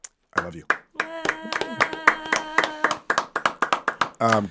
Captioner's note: all clap